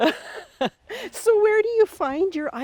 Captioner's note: both laughing